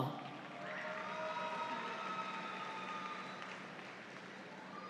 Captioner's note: audience applauds